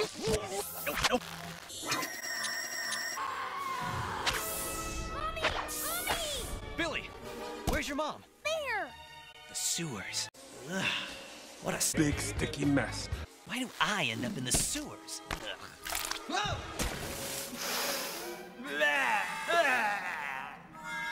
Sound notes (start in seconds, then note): 3.1 screaming